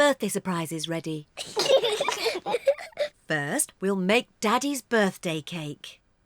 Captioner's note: both giggle